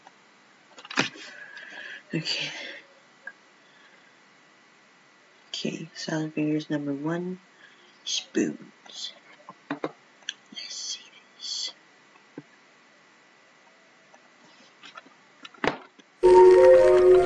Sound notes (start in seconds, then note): 1.1 inhale